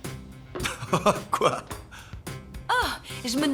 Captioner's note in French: rires